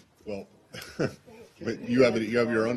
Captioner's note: laughter